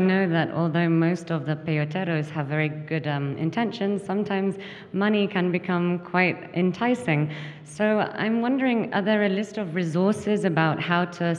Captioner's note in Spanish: habla en inglés